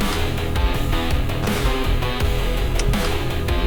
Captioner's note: button clicks; uptempo rock music; heartbeat thumping; button clicks